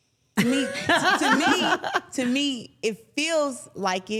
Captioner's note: laughing